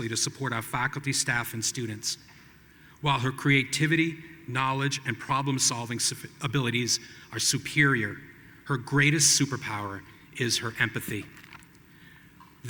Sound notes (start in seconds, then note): none